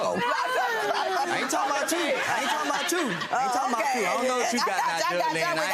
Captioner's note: Judge Lynn laughing